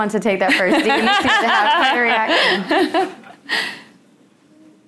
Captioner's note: laughing